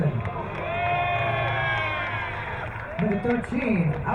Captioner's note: crowd cheering